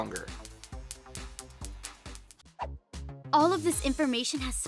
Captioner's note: electricity crackling